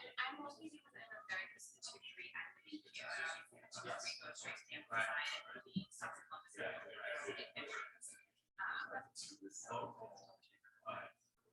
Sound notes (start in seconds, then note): 4.2 people chattering indistinctly